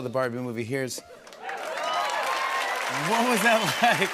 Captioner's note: cheers and applause